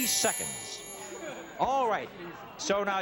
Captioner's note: audience groaning